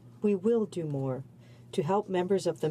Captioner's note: speaking French